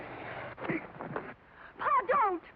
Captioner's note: Devers grunts